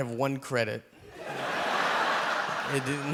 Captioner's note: audience laughing